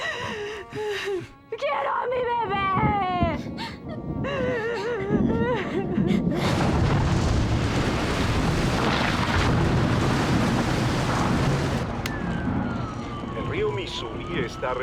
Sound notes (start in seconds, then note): 4.4 crying; 6.0 thunder